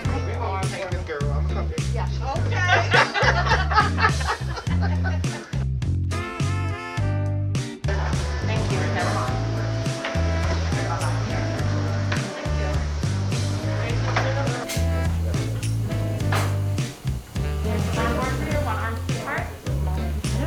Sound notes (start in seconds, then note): 0.2 chatter around the hospital; 0.2 upbeat music; 2.5 laughing